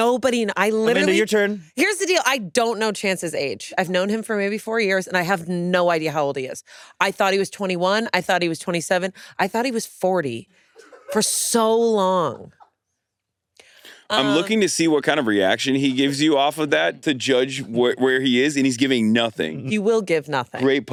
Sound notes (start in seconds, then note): 12.5 crew laughing